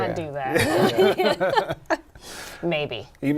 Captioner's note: laughter